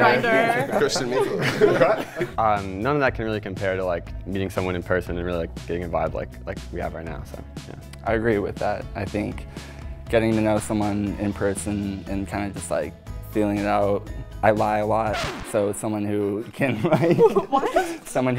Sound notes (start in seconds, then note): 14.9 record squeaking; 16.8 laughs